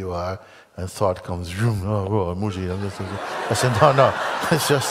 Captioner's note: Lachen